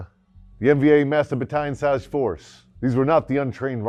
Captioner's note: voiceover